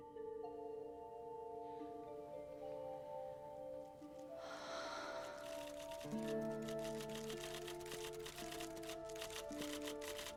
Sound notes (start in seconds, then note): 4.2 sighs; 7.9 typewriter keys clicking